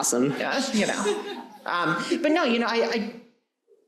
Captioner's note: audience laughing